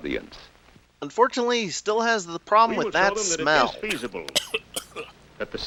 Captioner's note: choking cough